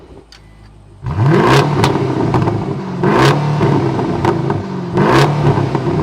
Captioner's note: engine revving - Sport Plus Mode